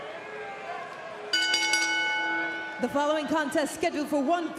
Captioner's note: crowd chatter; bell ringing